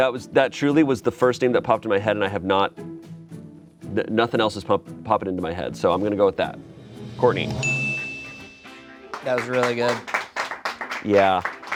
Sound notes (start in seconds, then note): 7.5 bell dings; 10.7 friends clap